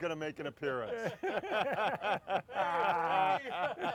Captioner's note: all laughing